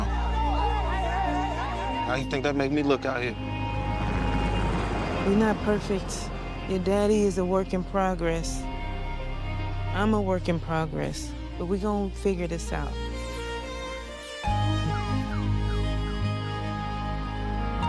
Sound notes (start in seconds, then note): 0.0 crowd clamoring; 0.2 calm dramatic music; 3.6 helicopter whirring; 4.0 calm dramatic music; 13.7 uplifting instrumental music